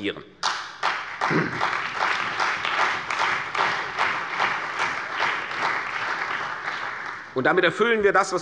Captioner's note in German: Beifall bei der CDU und dem BÜNDNIS 90/DIE GRÜNEN